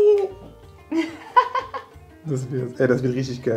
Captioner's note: laughing